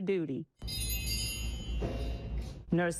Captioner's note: bell chimes